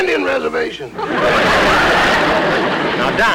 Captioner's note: audience Laughing